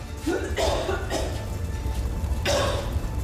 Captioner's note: Ava coughing; flames roaring; Ava coughing